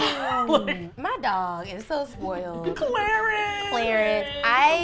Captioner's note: gasps; laughs; giddily